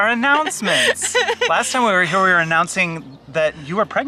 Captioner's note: laughing